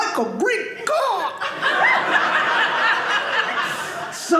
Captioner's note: audience laughing